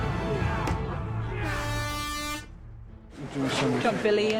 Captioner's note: air horn blows